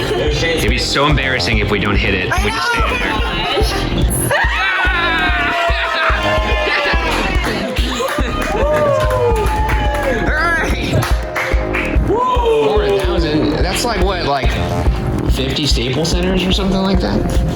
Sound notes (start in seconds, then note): 0.1 laughing; 4.8 all cheering